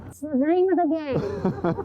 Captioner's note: laughter